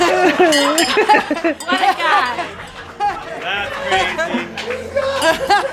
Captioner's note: laughter